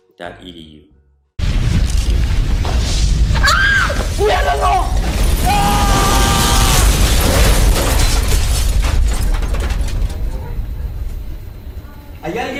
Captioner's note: crash noise, screaming